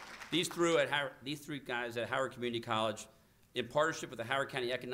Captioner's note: applause